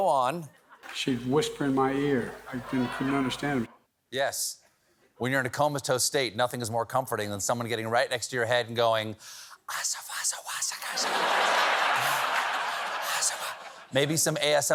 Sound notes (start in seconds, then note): 9.0 whispering